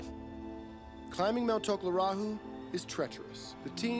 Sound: voiceover

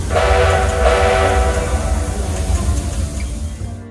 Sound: polar express whistle

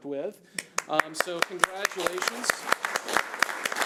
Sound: audience applauding

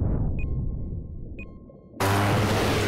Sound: beeping

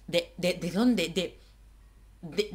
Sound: silence

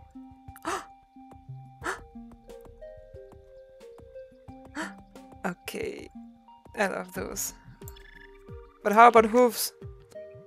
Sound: gasp, gasp, gasp

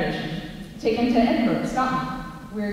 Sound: none

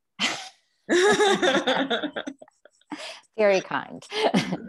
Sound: laughing

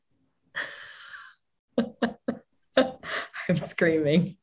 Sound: laughing

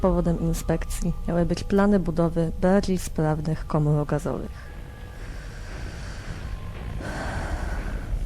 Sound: sigh

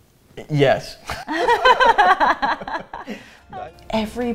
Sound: both laugh

